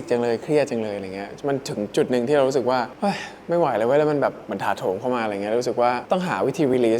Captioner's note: sighs